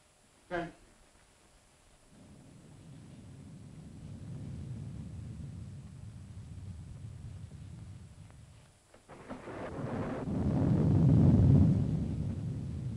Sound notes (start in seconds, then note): 2.1 thunder rumbling